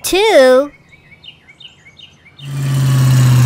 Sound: birds chirping; racing motor

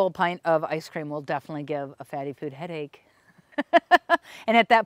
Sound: laughs

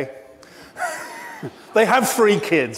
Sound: laughs

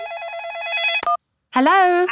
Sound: phone ringing

